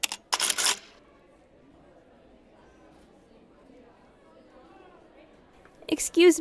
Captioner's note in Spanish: conversación baja e indistinta